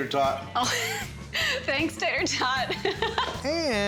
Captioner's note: laughing